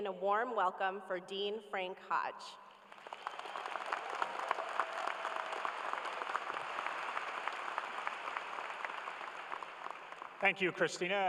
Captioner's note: cheers and applause